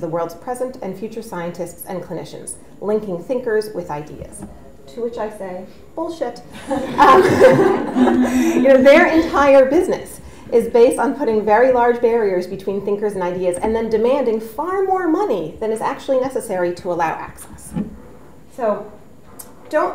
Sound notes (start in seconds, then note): 6.5 audience laughs; 6.5 laughs